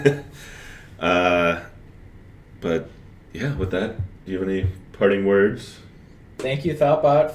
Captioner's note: laughs